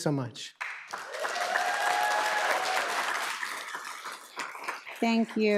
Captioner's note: audience applauds